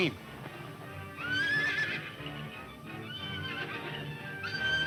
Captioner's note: horses neigh